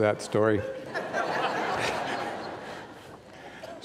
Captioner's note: audience laughing